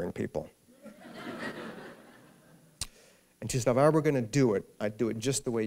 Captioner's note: laughter